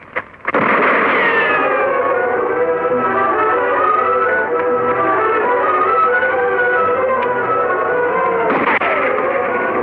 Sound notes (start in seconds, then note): 0.4 gunshot fires; 1.6 dramatic instrumental music; 8.5 gunshot fires